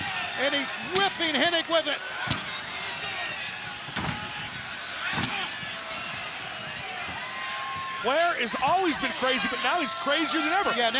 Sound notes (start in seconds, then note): 2.2 strap smacking; 3.7 body thudding; 5.0 strap smacking